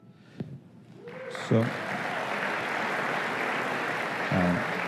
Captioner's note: applause